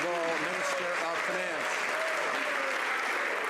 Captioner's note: some Applause